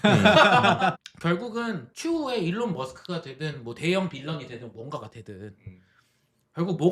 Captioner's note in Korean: 웃음